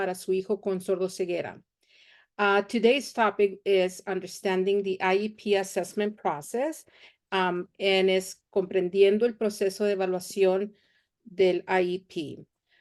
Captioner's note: speaking Spanish